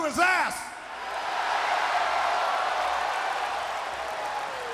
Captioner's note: crowd cheering